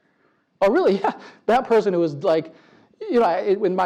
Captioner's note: laugh